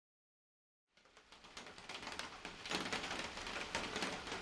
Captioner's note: rain pattering